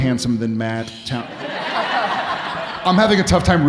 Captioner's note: audience laughing